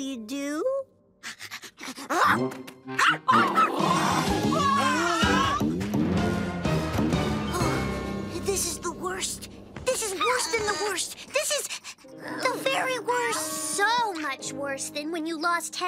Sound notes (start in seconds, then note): 0.1 beckett barks; 3.0 alien parents shriek